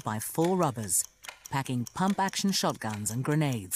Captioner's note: voiceover